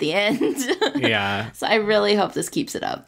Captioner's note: laughs